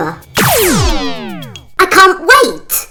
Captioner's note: electronic sound